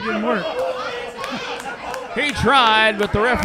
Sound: background chattering

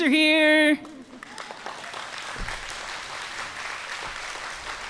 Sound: applause

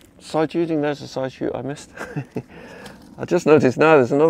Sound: laughs

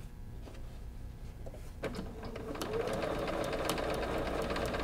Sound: machine humming

